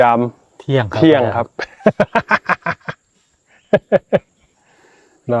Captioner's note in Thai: เสียงหัวเราะ